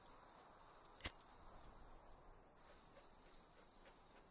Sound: lighter igniting

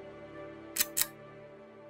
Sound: click

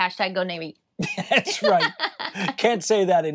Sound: both laughing

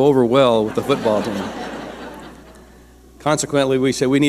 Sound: audience laughing

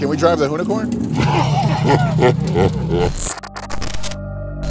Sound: laughter

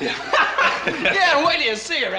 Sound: laughing

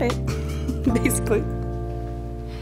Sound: laughs

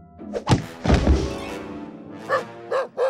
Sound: barking

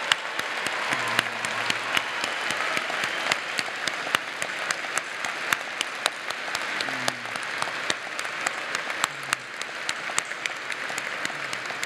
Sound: applause

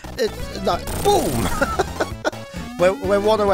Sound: chuckles

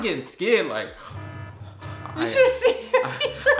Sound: alarm blaring

